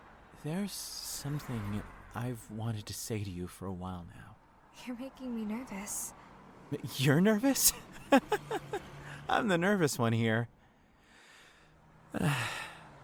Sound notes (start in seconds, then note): 7.6 anxious laugh; 10.6 deep breath